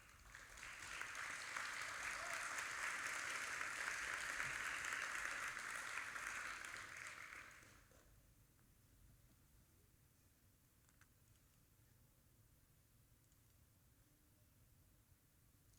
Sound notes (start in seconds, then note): 0.0 audience applauding